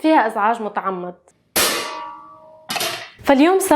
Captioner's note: pot noises, again